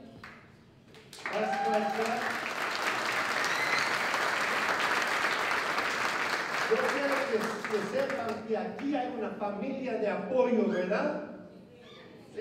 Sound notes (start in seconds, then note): 0.9 applause; 7.4 non-english speech